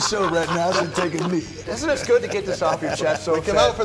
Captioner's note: laughter